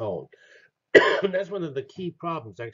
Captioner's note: cough